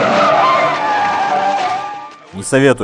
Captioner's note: brakes screeching